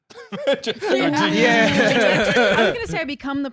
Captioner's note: all laughing